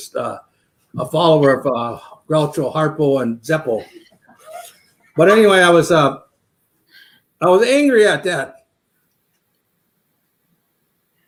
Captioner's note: laughter